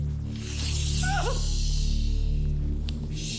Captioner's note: whimpering